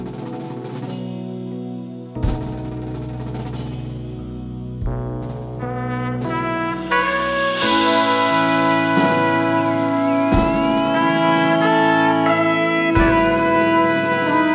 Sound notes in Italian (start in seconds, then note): 3.2 Applauso